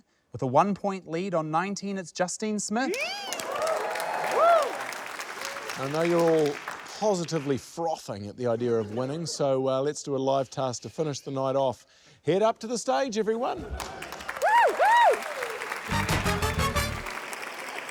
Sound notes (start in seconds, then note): 2.9 cheers, applause; 13.7 cheers, applause; 14.0 cheers; 15.9 curious music